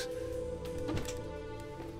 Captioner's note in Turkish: Kapı sesi